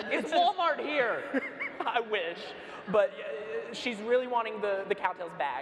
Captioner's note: laughs